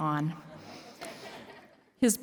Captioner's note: laughter